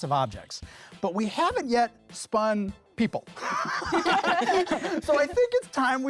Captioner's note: laughter